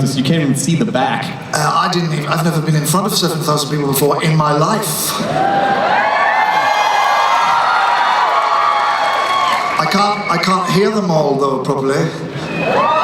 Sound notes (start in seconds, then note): 5.2 cheering